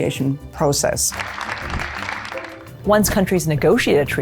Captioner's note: applauding